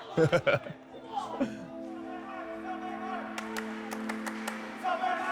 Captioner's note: laughs; crowd cheering